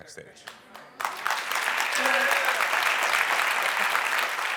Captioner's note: audience applauds